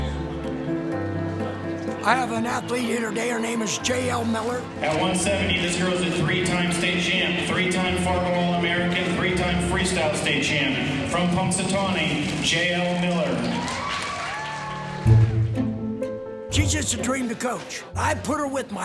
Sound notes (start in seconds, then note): 12.2 applause